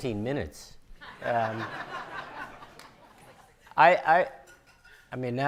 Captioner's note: audience laughing